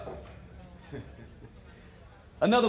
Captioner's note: laughs